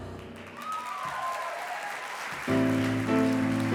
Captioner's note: audience applause